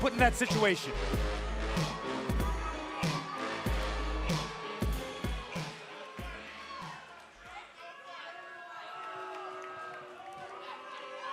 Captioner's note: cheers and boos